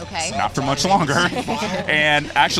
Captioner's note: laughter